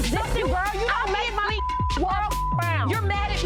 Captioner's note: beep